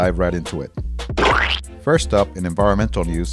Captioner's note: none